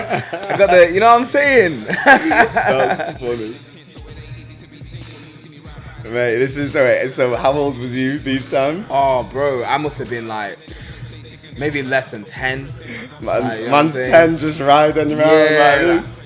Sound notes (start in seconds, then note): 0.0 laughs